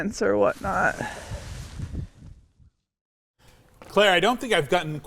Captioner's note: wind whooshing